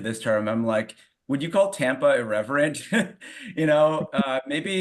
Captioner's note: chuckles